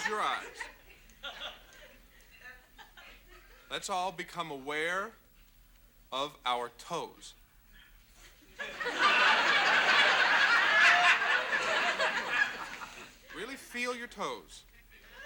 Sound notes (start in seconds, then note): 8.5 audience laughs